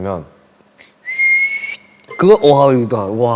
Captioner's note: whistle